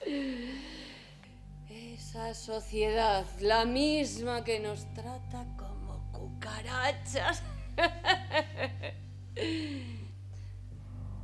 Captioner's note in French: rires